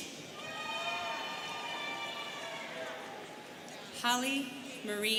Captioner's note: students cheering